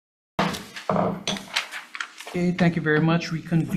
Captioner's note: gavel bangs